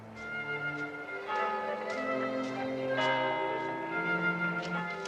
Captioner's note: bell tolls